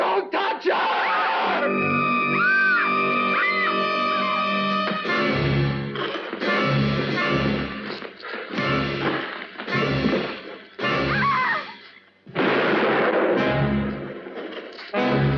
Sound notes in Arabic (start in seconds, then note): 0.0 صراخ بيلي; 2.7 صراخ كين; 4.9 فأس يحفر في الأرض; 6.9 أصوات قتال; 11.0 صراخ كين; 12.3 طلقة نارية